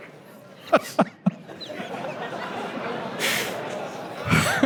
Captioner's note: audience applause; Pence laughter